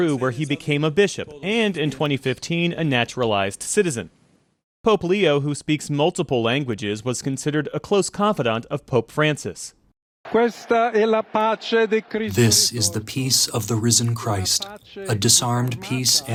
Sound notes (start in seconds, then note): 13.0 through translator